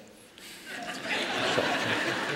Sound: laughter

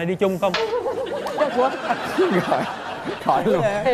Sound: laughs

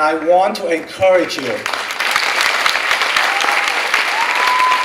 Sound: clapping

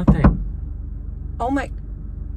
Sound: knocks on window

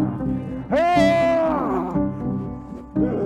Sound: yells

